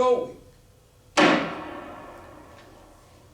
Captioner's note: gavel